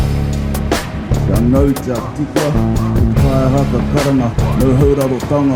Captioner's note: non-english speech